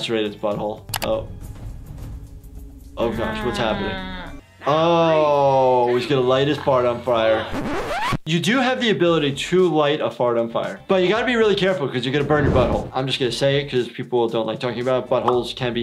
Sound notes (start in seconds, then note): 7.5 tape scratch